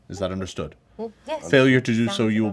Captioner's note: hums of approval